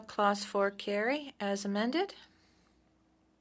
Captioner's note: speaking French